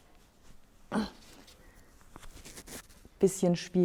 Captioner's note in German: stöhnt